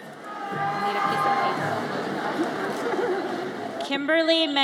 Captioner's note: audience cheers